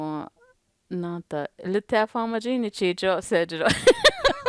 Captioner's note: laughter